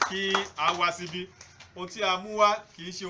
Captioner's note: clapping